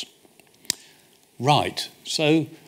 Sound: smacks lips

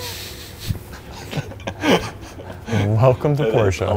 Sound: laugh

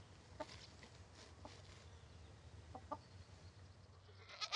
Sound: chickens clucking; goats bleating

